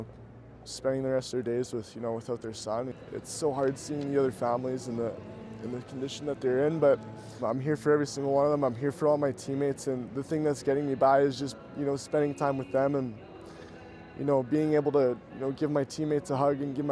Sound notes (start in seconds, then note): none